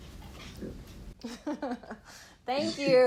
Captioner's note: laughing